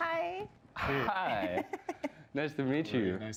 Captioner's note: chuckles